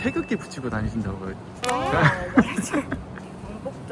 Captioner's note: laughter